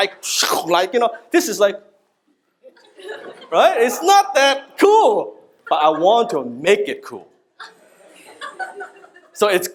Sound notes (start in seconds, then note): 4.3 audience laughs; 7.6 audience laughs